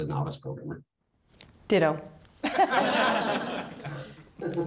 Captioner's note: laughter